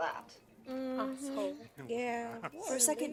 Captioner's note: general mumbling of agreement